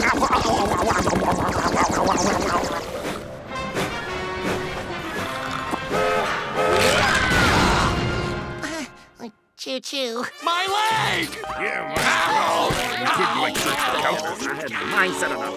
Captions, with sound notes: [train whistling] [chuckles] Choo choo. My leg! [groaning] [indistinct chatter]